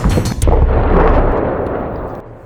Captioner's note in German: Detonation